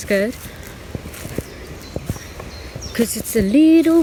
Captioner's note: birds chirping; leaves rustling